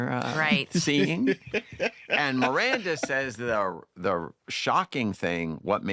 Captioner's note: laughter